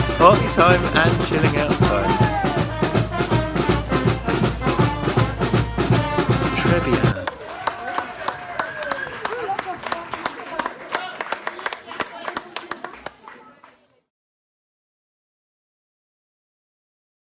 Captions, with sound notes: Party time and chilling out time. Tres bien! (clapping)